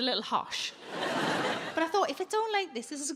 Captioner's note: audience laughing